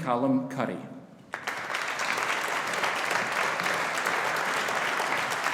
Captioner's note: audience applauding